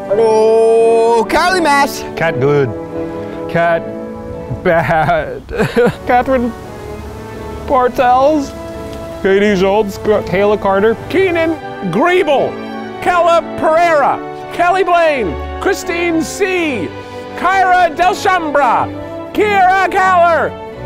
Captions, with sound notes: Ooh, Karly Maas. - Kat Goode, Kat Bad. (sobbing) Kathryn Bartels, Katie Schultz, Kayla Carter, - Keenan Griebel, Kela Pereira, Kelly Blaine, Kristine C, Kyra Delchambre, Kyrra Kahler,